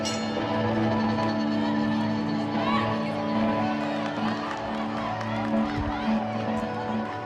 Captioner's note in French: la cloche sonne; acclamations de la foule